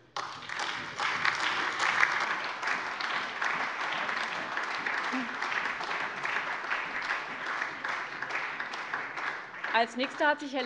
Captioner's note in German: Beifall SPD, AfD, Freie Demokraten und LINKE